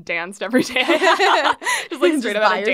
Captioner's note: laughs